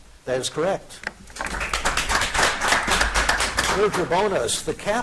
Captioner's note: audience applauding